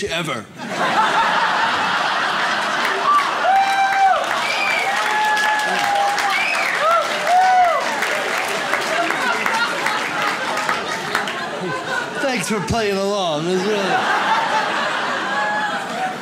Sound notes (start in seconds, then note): 0.6 audience laughs; 3.1 audience cheers; 13.7 audience laughs